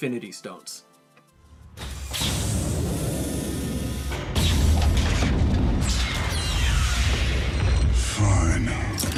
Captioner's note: mechanical sounds and hydraulics